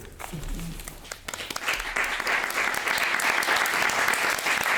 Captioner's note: audience applauding